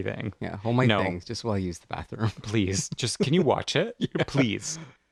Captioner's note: laugh